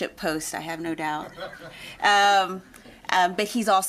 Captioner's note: people laughing